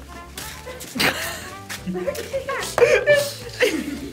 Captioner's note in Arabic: يضحك الجميع